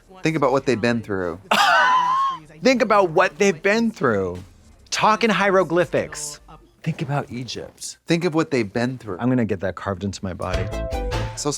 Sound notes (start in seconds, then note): 1.5 Katya wheezes